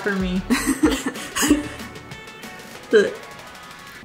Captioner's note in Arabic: كلاهما يضحك